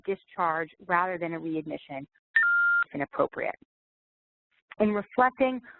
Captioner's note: beep